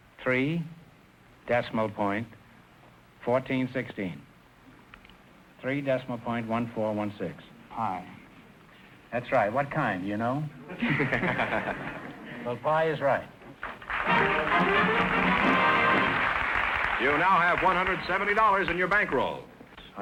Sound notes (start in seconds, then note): 10.6 laughing; 13.6 triumphant music & applause